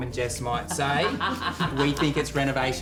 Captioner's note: laughing